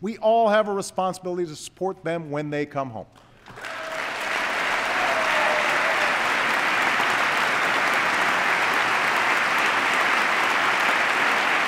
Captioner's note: applause